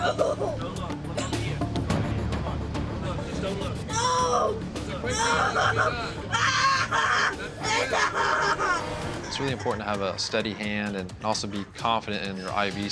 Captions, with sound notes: No. [cries] Just don't look. No. No. [cries] Ah! It's really important to have a steady hand and also be confident in your IV site.